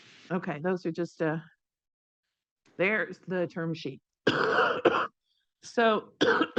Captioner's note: coughs